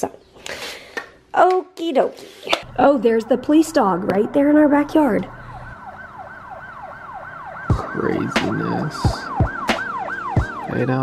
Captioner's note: sirens in the background